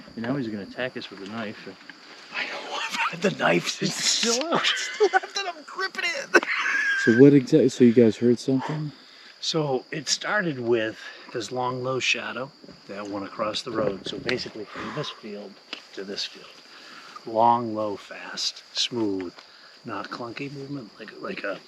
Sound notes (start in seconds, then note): 2.5 laughing